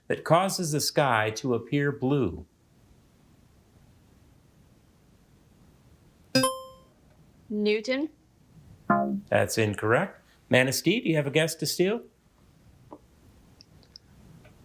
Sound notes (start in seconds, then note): 6.4 buzzer chimes; 8.9 womp chimes